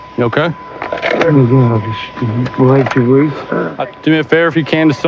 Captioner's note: muttetersrs